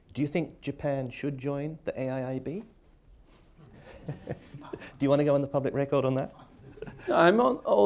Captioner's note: laughs